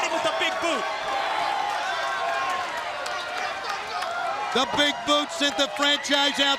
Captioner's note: crowd chatter